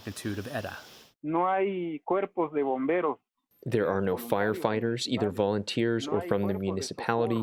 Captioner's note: through translator